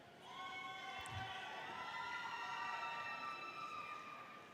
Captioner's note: audience cheers